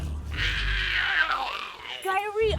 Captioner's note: Giree growls